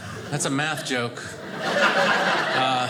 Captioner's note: audience laughing